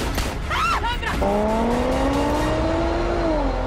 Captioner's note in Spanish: Disparos; Grito